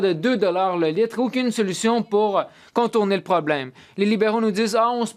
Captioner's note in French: voix de l'interprète